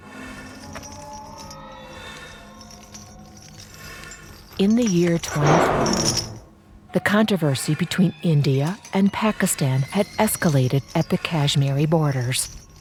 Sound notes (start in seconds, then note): 0.0 person breathing heavily; 5.3 object thudding